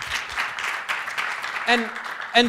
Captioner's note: applause